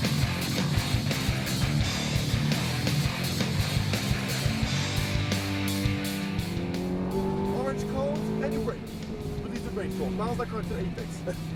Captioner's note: engine revs loud